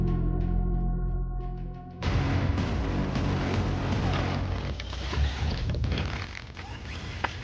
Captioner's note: intense music; Kellogg whirring